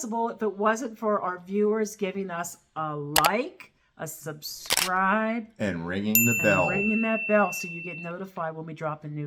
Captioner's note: and ringing the bell